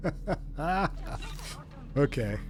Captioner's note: laughing